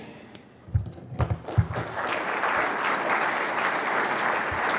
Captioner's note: applause